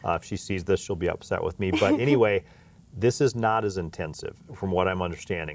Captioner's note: laughs